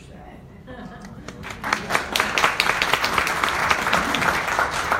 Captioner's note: audience applauds